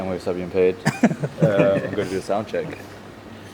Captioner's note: laughing